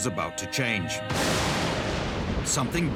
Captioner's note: thunder